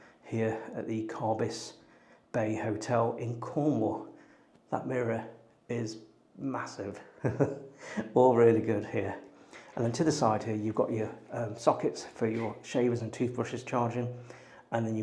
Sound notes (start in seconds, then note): 7.1 laughs